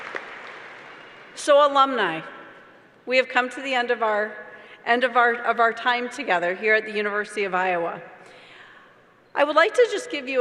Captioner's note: applause